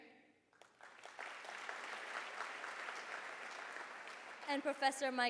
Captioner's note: applause